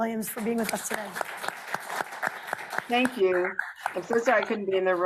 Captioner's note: group applauds